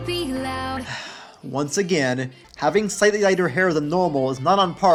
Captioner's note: sigh